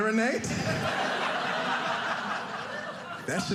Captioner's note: audience laughing